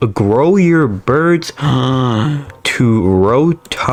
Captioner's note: inhales Oxygen